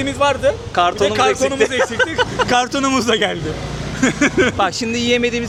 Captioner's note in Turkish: kahkaha